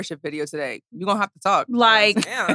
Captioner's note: laughs